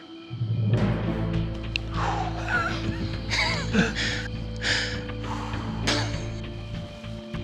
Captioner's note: laughing